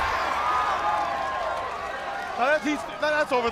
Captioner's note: crowd cheering